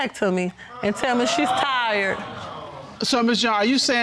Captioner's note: audience exclaims